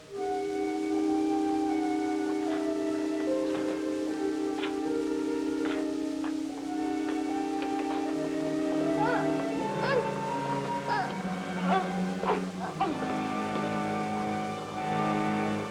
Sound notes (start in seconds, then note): 0.3 dramatic instrumental music; 3.5 door clicks; 9.0 woman gasps